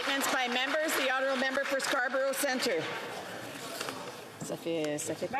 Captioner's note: cheering & Applause